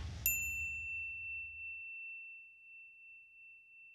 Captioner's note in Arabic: دينغ